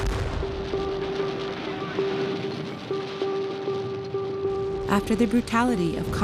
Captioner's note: artillery and guns firing